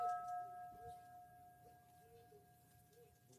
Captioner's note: bell ringing